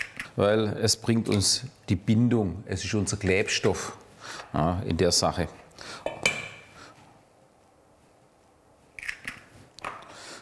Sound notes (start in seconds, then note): 6.0 clanking of dishes